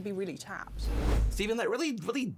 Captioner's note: air whooshes